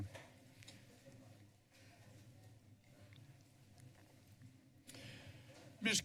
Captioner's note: silence